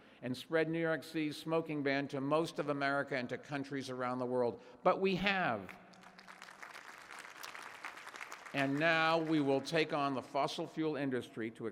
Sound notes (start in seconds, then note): 5.6 applause